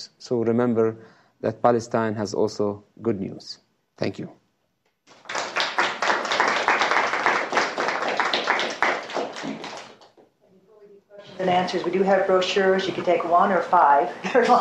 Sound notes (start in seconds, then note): 5.1 crowd applauds